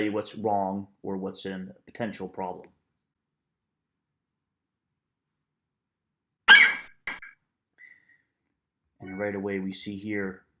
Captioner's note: FlightCheck eagle screeches